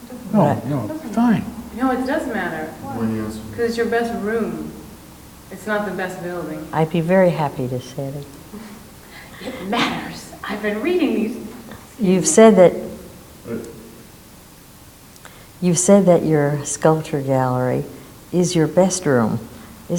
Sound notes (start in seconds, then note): 13.6 man speaks off mic